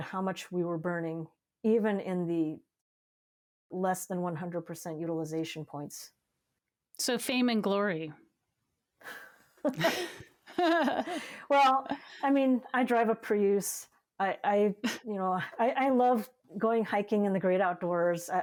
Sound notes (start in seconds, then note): 9.6 both laughing